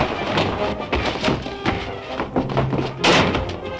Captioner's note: punches thudding